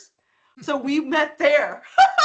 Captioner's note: laughing